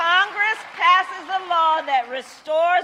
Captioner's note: applause